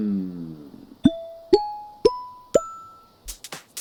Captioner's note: exhale; ascending pop dings